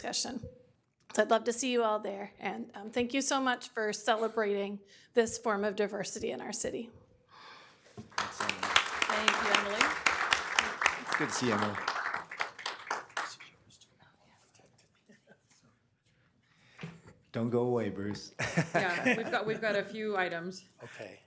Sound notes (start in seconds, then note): 10.6 applause